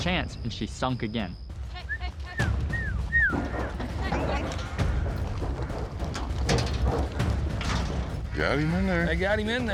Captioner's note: whistling, wrangling